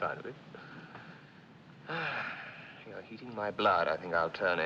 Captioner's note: Suspiros